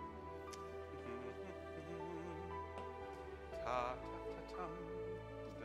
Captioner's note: hums